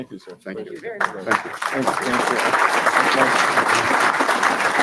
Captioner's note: audience applauds